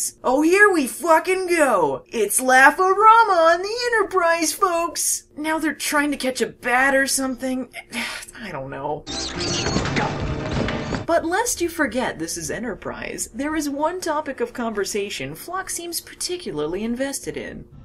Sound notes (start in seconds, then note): 9.1 bat screeches